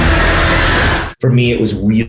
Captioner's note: screams